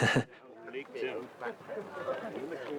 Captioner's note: all chattering